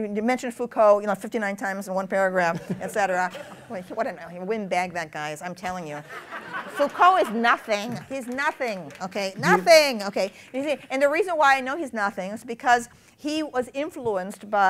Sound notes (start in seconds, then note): 2.3 laughter; 8.1 applause